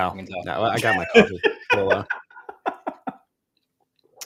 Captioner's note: laughs